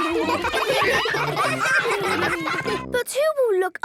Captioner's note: ruckus